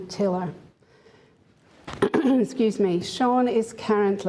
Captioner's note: coughs